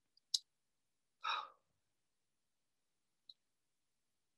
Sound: exhales

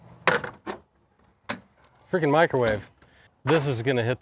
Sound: door clacks

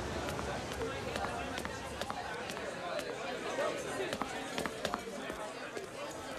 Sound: crowd chatting

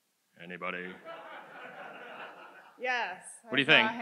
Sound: audience laughs

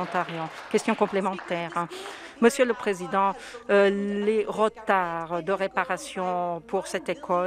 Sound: some Applause

